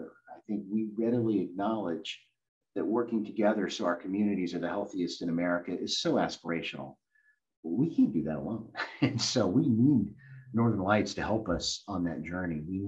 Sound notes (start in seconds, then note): 8.7 chuckles